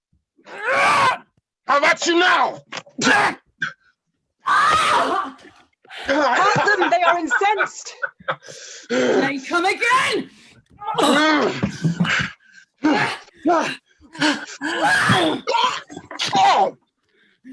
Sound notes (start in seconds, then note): 0.0 grunting; 6.1 grunts; 10.8 grunts. Queen swoons